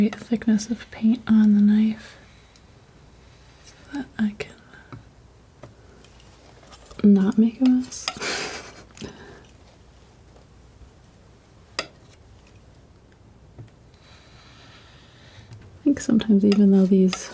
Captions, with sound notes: thickness of paint on the knife so that I can not make a mess [laughing] [tapping] [tapping] I think sometimes even though these